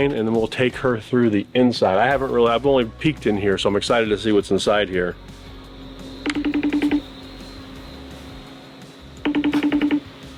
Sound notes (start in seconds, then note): 6.6 phone ringing